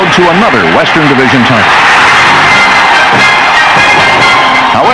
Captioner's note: crowd cheering